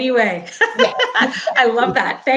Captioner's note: laughing